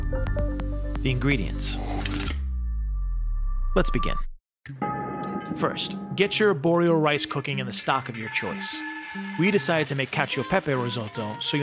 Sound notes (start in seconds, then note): 0.0 digital music; 2.1 clicking; 2.1 whooshing